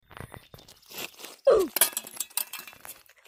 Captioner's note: shovel clatters on the ground; Roblox death noise